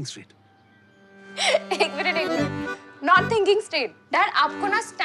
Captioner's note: Laughs